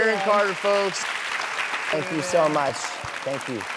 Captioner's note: audience clapping